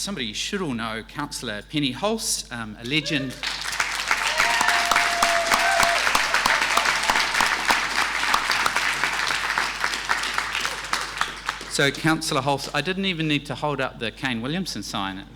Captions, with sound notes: somebody you should all know, Councillor Penny Hulse, a legend. (audience cheering) (audience applauding) so, Councillor Hulse, I didn't even need to hold up the Kane Williamson sign.